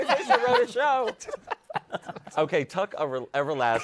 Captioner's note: laughter